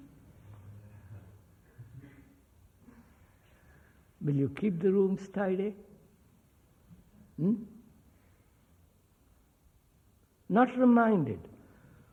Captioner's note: laughter